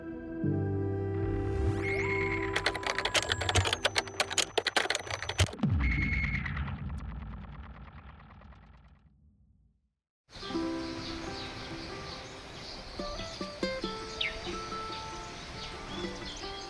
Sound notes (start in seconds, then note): 2.0 machine clicks and whirs